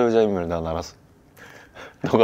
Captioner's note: anxious laugh